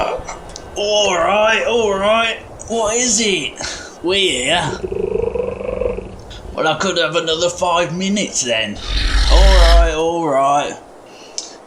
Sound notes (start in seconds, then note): 5.7 turtle trilling; 8.8 snort!